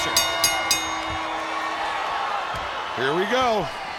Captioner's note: bell rings